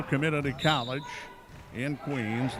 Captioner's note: referee whistling